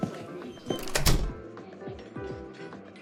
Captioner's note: door closing